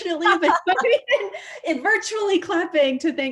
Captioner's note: laughs